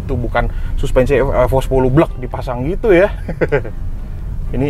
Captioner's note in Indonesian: ketawa